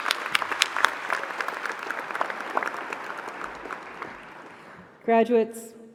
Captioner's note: applause